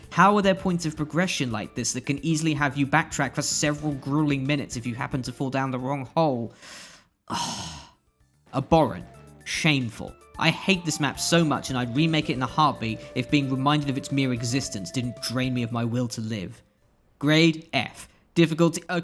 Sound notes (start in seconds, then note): 7.2 deep sigh